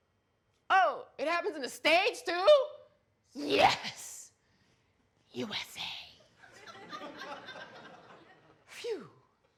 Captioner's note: audience laughter